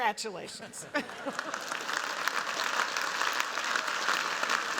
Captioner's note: applause